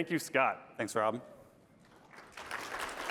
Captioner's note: applause